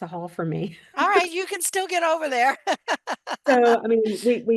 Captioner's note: laughs